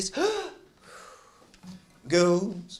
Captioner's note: sighs